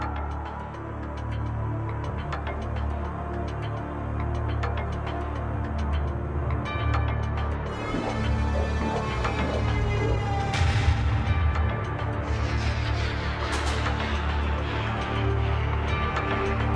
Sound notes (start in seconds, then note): 0.1 ominous and tense electronic music; 10.6 echoing thud; 12.1 ominous and tense electronic music